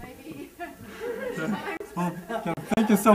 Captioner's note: laughing